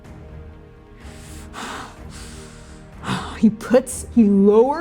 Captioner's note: bitter exhaling; heavy breathing, growling